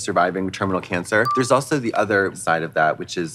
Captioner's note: pause chime